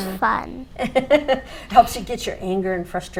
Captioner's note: laughs